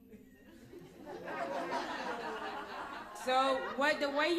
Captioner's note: laughter